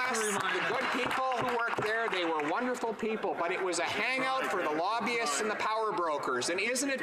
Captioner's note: applause